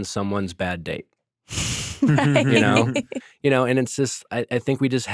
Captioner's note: laughing